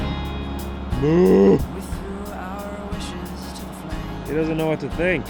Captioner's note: moos